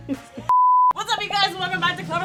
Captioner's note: beep